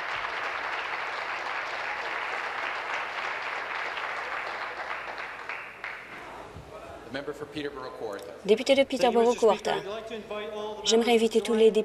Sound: applause

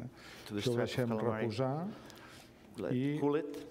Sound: speaking catalan

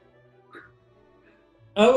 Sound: horne chuckles

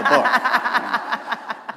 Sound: laughter

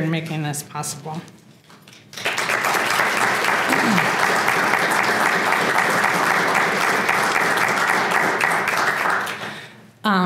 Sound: applause

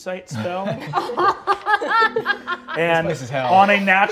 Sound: players laughing

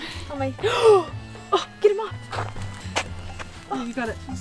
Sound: gasps

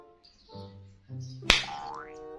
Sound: belt snaps

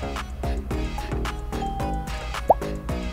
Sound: ding

